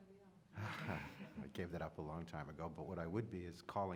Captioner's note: chuckles